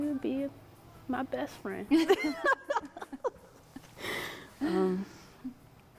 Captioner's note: laughter